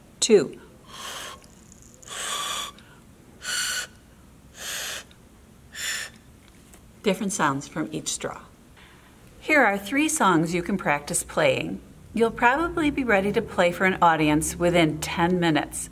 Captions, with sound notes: Two. [air passing through straw at different pitches] Different sounds from each straw. Here are three songs you can practice playing. You'll probably be ready to play for an audience within 10 minutes